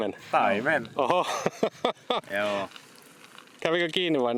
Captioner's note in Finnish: naurua